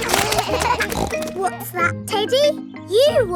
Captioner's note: snorts; kids laughing